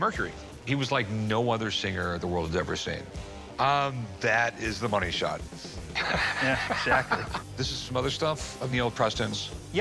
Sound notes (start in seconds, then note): 5.9 laughs